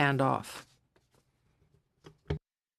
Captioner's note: speaking FRENCH